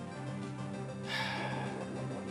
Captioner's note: sighs